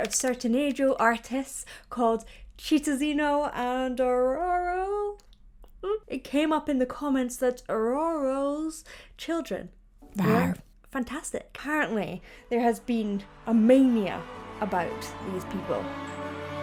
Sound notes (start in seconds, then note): 10.1 animation growling